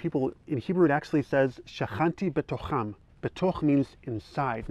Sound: speaking in Hebrew

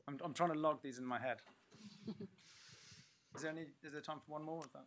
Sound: laughter

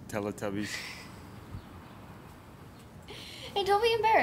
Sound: laughing

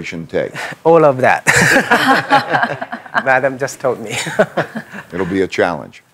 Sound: laughs

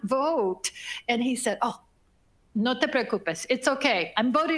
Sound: speaking foreign language

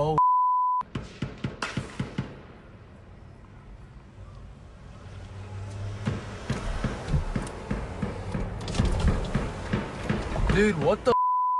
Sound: gunshots

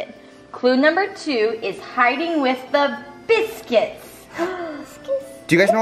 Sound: gasps

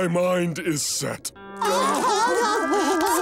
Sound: crying

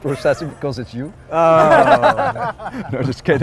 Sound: laughing

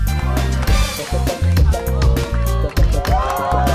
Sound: crowd; crowd cheering and applauding continues

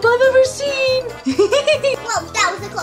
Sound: laughs

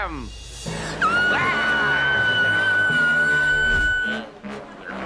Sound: screaming

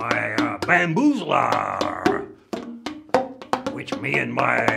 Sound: bamboo bonks

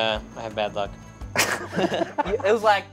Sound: laughs

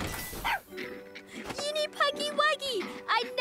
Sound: barks

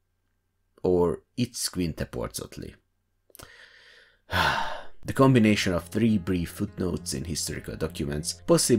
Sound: sigh

